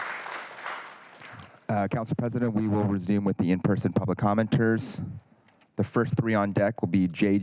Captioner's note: applause